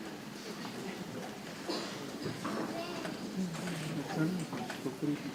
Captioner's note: people chattering softly